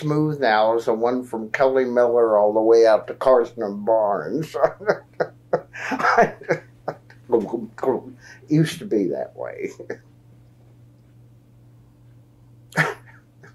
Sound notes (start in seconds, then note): 7.5 laughs